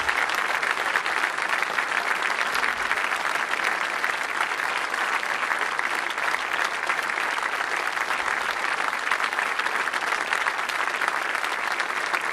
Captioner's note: applause